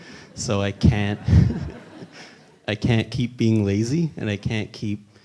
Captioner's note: laughs